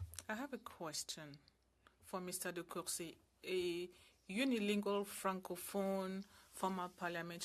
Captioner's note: speaking French